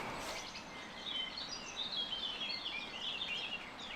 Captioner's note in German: Vogelgezwitscher